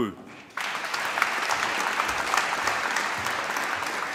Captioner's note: applause